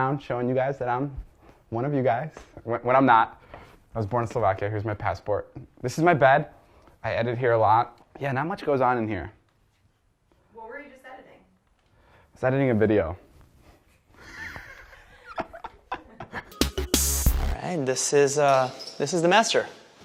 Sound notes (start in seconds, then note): 14.1 laughs; 16.4 upbeat music